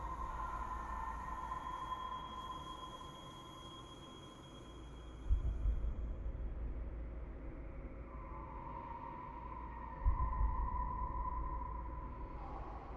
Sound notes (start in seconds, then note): none